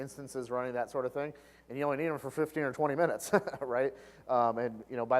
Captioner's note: laugh